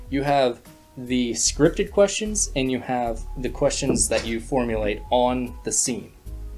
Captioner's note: kitty jumping